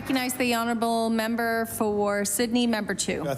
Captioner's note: applause